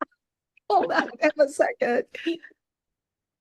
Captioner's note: laughing